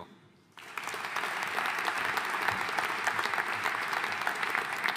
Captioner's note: audience applauding